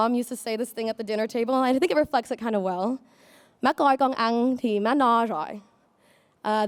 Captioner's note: speaking in Vietnamese